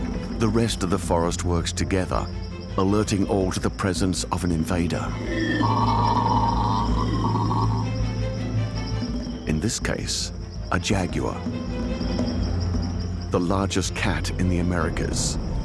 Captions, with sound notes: The rest of the forest works together alerting all to the presence of an invader. [screeches] In this case, a jaguar. The largest cat in the Americas.